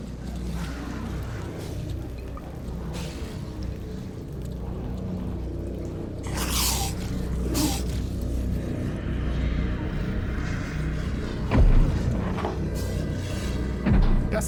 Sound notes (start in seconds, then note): 1.6 vampires growling; 6.2 vampires growling; 11.5 footsteps thundering